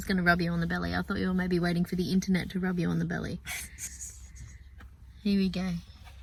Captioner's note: laughs